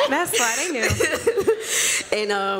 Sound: laughter

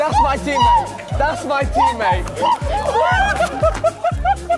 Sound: screaming; laughing; group laughing

